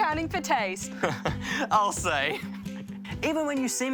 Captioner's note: chuckles